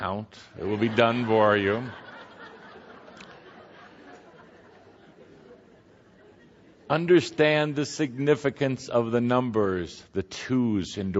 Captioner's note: much laughter